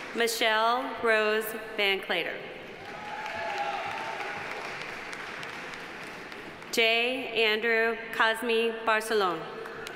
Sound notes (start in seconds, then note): 2.8 audience applauding; 2.9 audience cheering